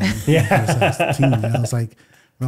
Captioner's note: laughing